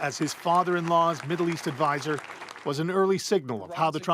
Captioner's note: applause